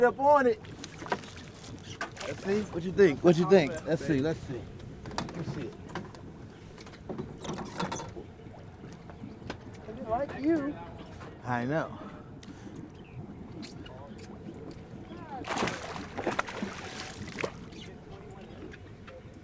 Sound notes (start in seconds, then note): 9.1 clattering; 15.3 fish splashing